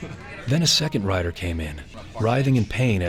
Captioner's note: voiceover